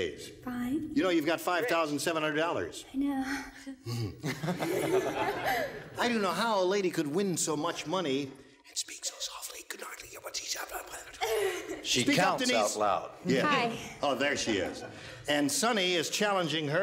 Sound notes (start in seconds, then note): 3.8 giggles; 4.0 laughter; 8.3 whispering